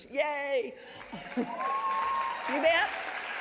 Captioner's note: audience applauding